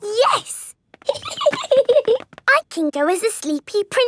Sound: giggling

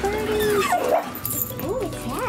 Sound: dog barks

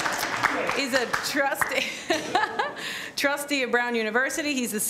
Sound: applause; chuckles

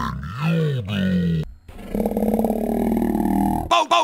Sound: loud Burp

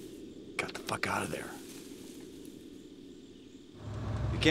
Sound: whispers

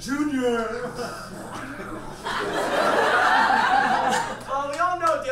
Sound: audience laughs

